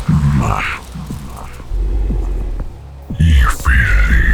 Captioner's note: growling